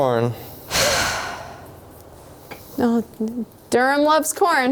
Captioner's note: sighing